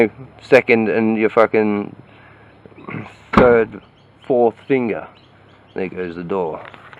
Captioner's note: slam